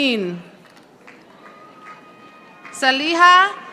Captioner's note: audience applauding